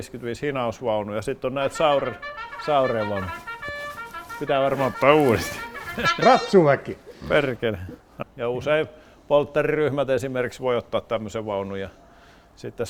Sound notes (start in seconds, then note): 5.7 phone rings